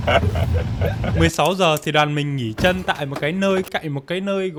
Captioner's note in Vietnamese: tiếng cười